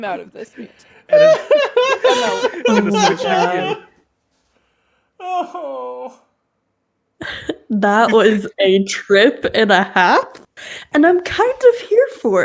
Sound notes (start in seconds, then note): 8.0 laughing hysterically